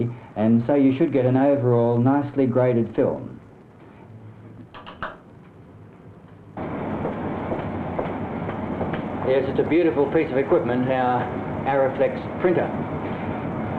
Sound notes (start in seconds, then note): 7.9 footsteps